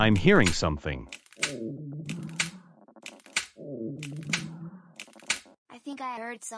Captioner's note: flatulence noises and stomach growlings can be heard